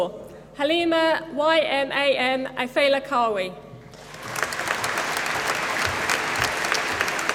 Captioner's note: applause